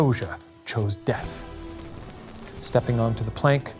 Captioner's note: dramatic music; screen crackling